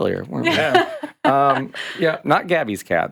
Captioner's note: laughing